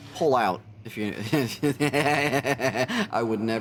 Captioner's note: laughs stinkily